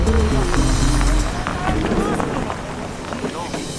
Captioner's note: gravel crunching